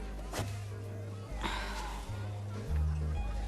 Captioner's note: sighs